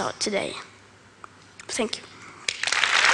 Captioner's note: Applause